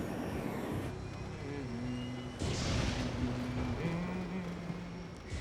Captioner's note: humming